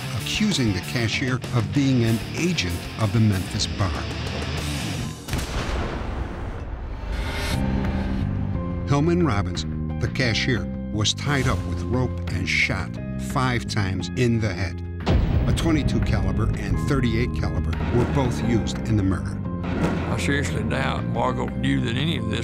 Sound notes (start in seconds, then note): 5.4 gunfire ringing